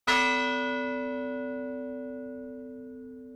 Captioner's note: bell rings